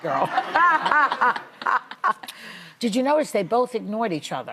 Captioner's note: laughter